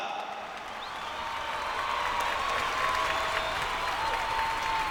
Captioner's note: cheers and applause